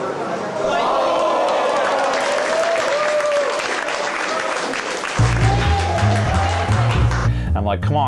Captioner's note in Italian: la folla esulta